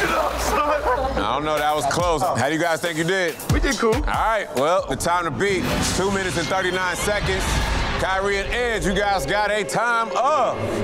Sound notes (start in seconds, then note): 0.0 laughing; 7.2 digital beeping